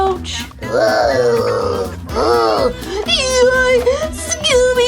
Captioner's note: grunting